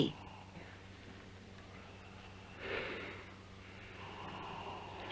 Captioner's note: breathing continues